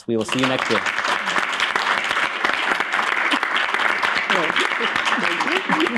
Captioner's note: applause